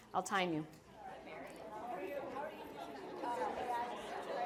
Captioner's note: chatter